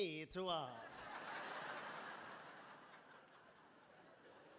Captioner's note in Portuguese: audience laughing